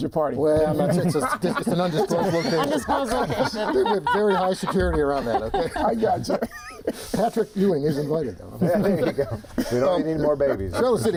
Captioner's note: laughter